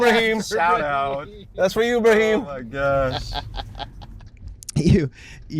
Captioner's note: laughter